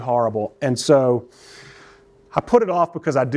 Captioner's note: takes deep breath